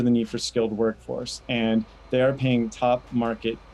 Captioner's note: machinery humming